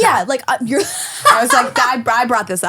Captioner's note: laughing